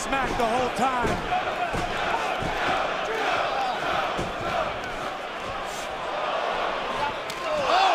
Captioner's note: fans chanting